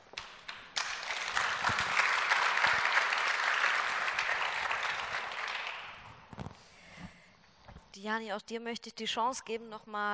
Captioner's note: Applaus